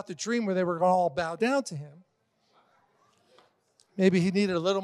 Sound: congregation laughing

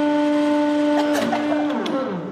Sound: coughing

